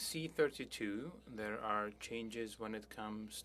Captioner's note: speaking French